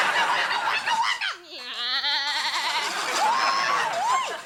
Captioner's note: Morgan screams; Morgan imitates various animals; Morgan cheers